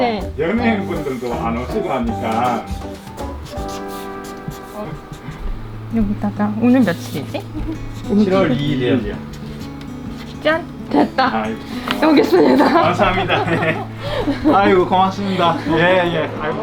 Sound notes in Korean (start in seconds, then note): 7.4 웃음; 11.7 웃음